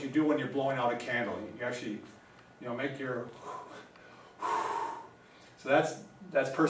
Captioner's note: exhaling